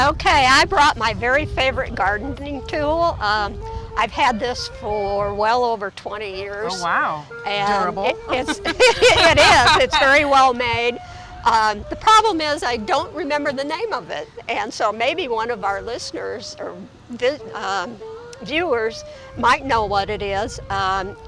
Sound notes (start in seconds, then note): 7.5 laughs